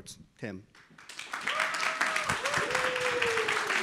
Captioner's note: audience applauds